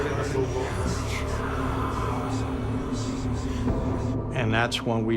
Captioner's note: whispering